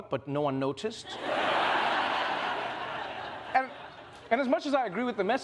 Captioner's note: laughter